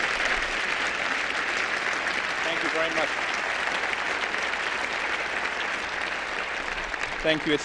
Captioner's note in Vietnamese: Tiếng vỗ tay; Tiếng vỗ tay